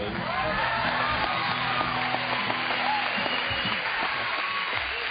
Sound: audience applauding

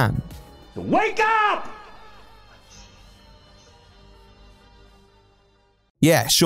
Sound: silence?

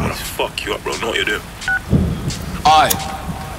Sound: phone beeps

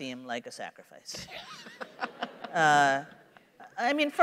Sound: laughter

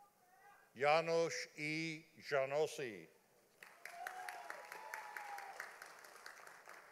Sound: audience applauding

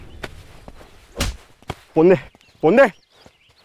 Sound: slaps

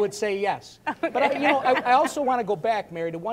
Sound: laughs, audience laughs; laughs

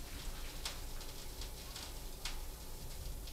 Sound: quiet crackling

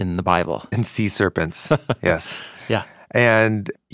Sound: chuckling

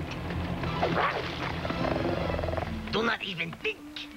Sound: grr

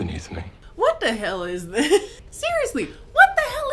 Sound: laughs

